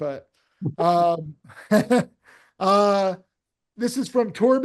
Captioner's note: people laughing